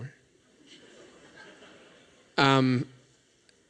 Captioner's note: laughter